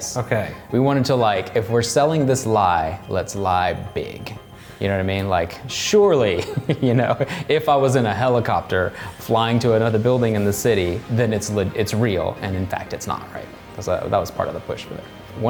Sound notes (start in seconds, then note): 6.3 laughing